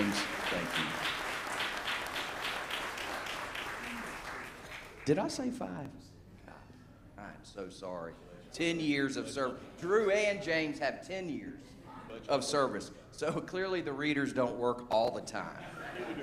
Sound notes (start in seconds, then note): 3.8 applause